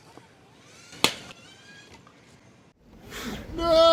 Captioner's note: crack